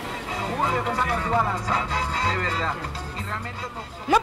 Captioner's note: radio playing